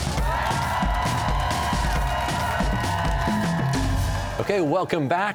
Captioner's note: cheers and applause